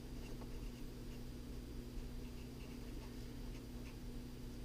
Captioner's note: pen writing on paper